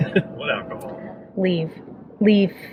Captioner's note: laughing